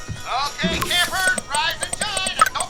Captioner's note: phone keyboard texting